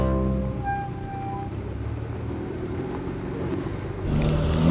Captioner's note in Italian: micro rumori di freni e scocca della 1107 in discesa